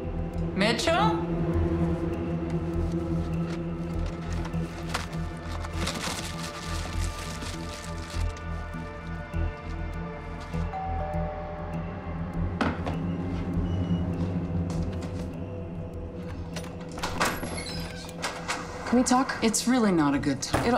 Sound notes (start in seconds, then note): 10.7 doorbell rings